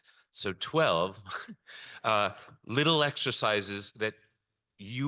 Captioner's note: chuckles